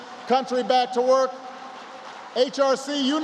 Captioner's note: applause